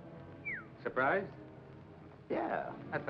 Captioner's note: Smiley whistles